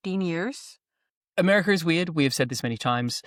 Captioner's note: none